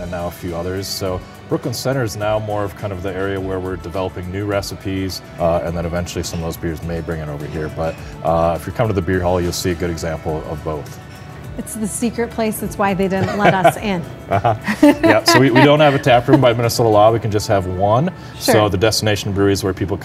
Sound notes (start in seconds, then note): 13.1 laughs